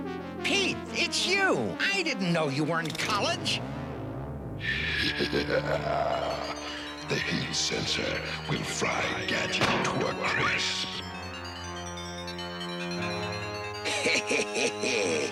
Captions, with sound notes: PETE! IT'S YOU! I DIDN'T KNOW YOU WERE IN COLLEGE. [CACKLING] THE HEAT SENSOR WILL FRY GADGET TO A CRISP. HEH HEH HEH HEH.